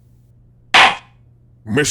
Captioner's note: gavel slam!